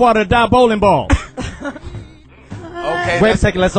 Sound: few laugh

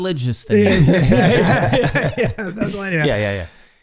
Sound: Charlie laughing

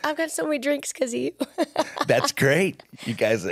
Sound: laughs

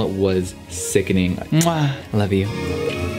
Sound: kisses

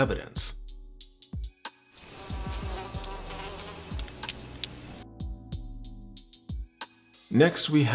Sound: flies buzzing

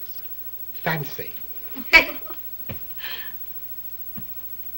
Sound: laughs

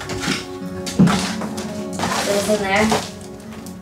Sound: rustling

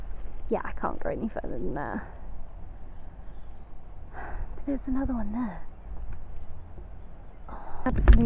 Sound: sighs

